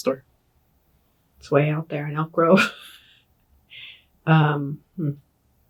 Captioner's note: chuckles